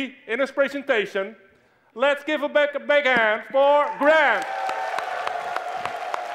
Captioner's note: Applaus